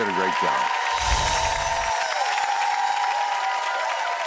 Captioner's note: audience cheers